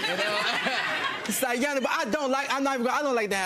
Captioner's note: audience laughing